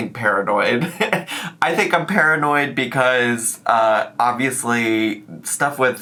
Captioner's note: laughs